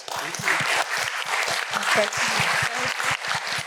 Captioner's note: applause